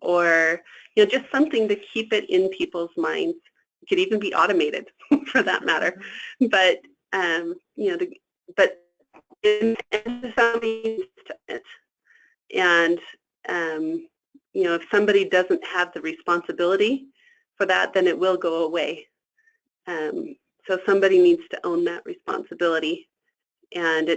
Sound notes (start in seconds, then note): 9.4 static